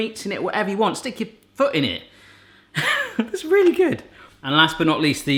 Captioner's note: laughing